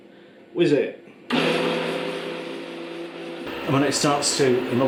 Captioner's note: blender noise